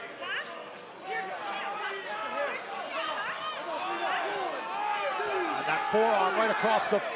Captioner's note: crowd chatter